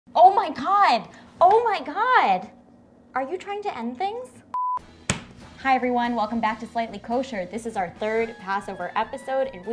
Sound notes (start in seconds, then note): 4.5 beep